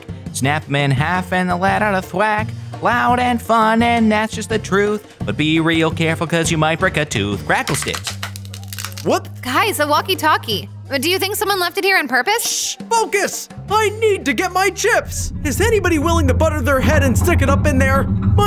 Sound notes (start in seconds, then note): 7.6 crackle stick snapping